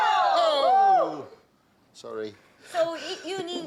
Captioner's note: all gasping